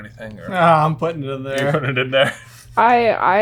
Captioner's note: laughs